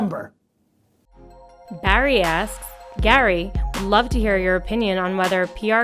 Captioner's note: voiceover